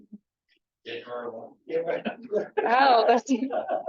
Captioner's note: speaking faintly